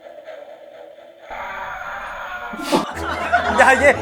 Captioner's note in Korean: '절규'